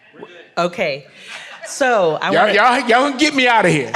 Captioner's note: audience laughs